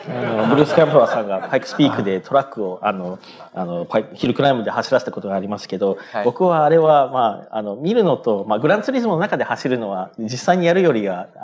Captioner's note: speaking japanese